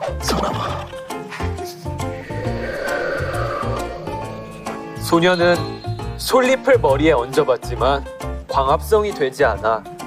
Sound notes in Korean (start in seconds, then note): 2.1 바람 효과음